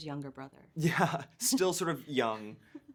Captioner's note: chuckling